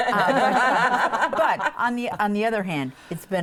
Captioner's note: laughing